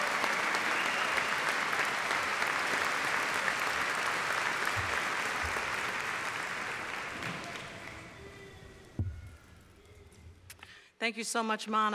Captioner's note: applause